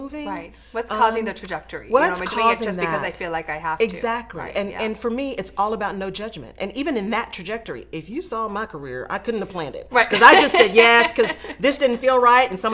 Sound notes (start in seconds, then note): 10.0 laughs